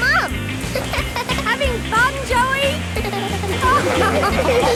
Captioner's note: giggles; laughing